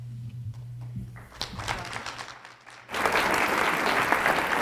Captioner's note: audience applause